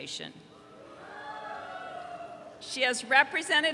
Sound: audience cheering

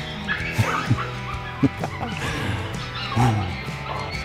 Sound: laughs

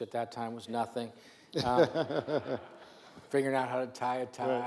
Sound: laughs

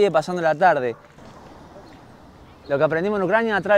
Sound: shooting nearby

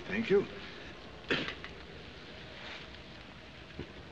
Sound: coughs

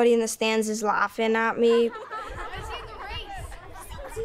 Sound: laughter

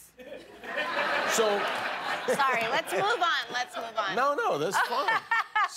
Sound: laughter

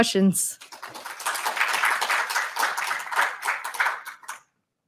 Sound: audience applauds

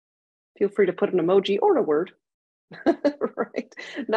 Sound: laughs

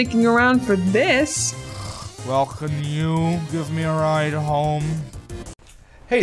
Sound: snort

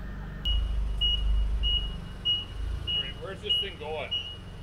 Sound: forklift beeping

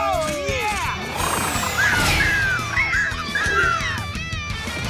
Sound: squeaking

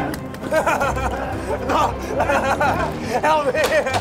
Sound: crying like a baby

